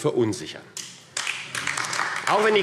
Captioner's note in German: Beifall AfD